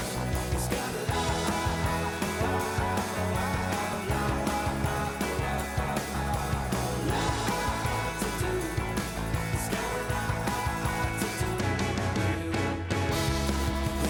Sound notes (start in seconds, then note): none